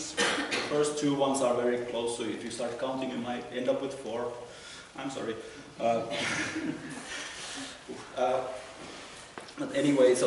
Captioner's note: laughter